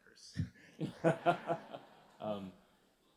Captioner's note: laughter